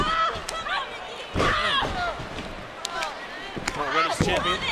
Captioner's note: crowd clamoring; ring thuds